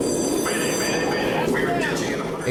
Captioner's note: loud rumbling; alarm bell ringing